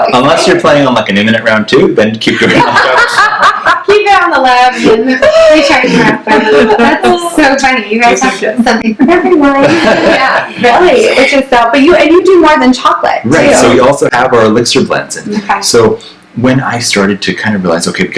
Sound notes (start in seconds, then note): 2.4 laughs